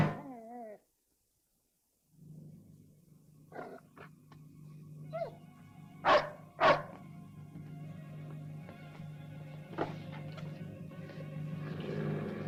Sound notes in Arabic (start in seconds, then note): 0.1 كلب يئن; 6.0 نباح الكلب; 9.9 موسيقى متوترة; 11.6 هدير الكلب